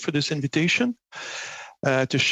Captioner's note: speaking FRENCH